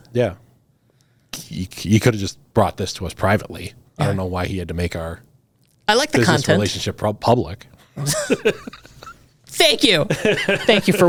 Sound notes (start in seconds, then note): 5.6 laughs